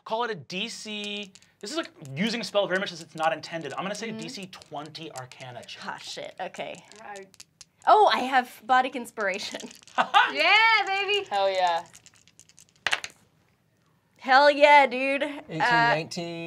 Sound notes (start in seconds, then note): 10.0 chuckles; 13.2 dice clack